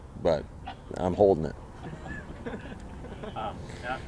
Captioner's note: laughter